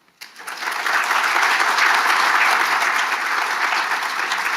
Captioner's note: audience applauding